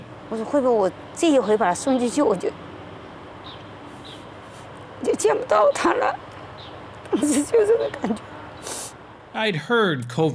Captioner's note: speaking Mandarin